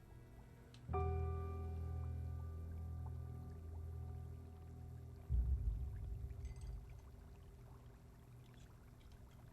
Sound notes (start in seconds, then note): 0.8 dark orchestral music; 1.0 water bubbles